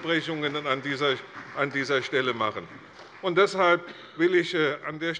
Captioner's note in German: Beifall bei der CDU